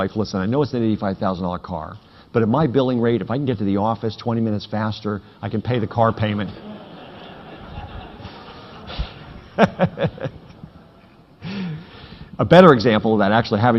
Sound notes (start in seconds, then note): 6.1 audience laughing; 9.7 laughing